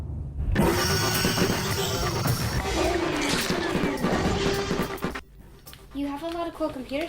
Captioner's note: dinosaur roaring; gun firing